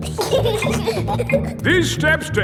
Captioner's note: giggling